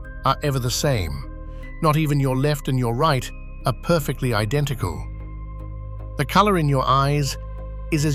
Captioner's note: breath